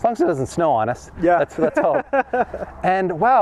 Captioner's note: laughs